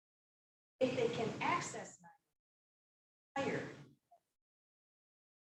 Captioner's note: speaking faintly; speaking faintly